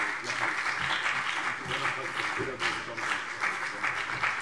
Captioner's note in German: Beifall CDU und BÜNDNIS 90/DIE GRÜNEN